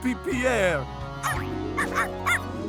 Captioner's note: barking